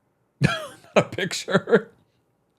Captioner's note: laughing